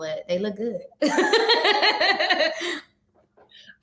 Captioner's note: chuckles